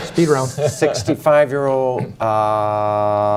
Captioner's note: laughter